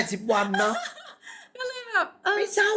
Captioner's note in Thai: เสียงหัวเราะ